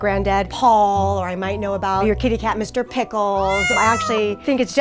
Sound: meow

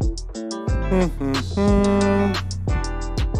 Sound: humming

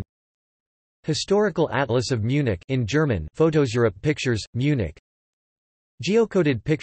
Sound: in German

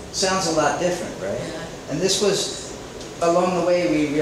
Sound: students assent

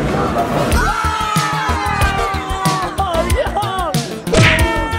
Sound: people clamoring

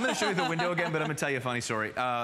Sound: laughter

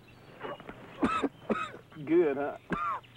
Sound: coughing

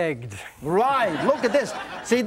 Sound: audience laughs

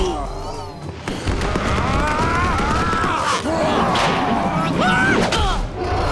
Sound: grunting; grunting; screaming

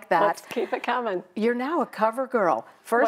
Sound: laughs

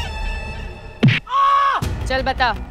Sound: yelping

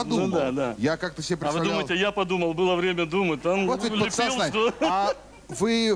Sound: laugh

